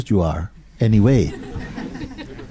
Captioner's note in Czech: smích